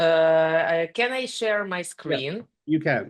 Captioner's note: speaking ukrainian